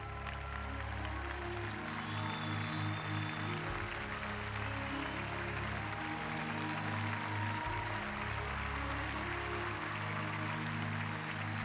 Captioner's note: applause